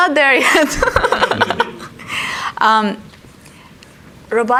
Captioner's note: laughs